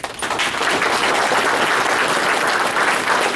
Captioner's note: applause